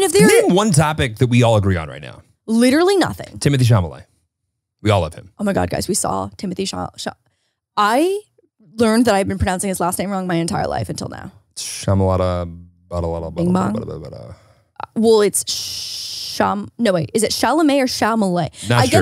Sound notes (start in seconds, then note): 12.1 both rambling